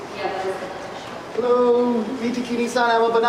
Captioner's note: speaking in a foreign language